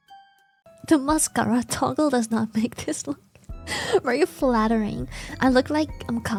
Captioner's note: laughs